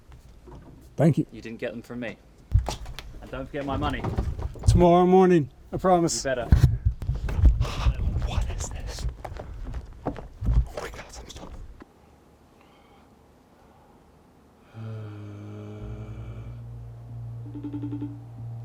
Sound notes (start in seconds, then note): 7.1 gasps; 14.8 groans, ringing